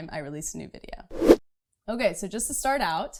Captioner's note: whooshing